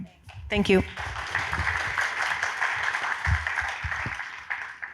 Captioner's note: audience clapping